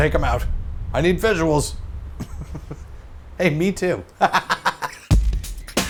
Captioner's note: laughs